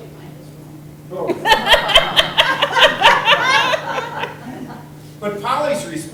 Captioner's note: everyone laughing